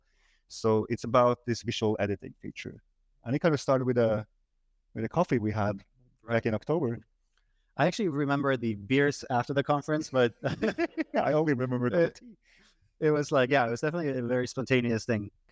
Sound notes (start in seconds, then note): 10.0 laughing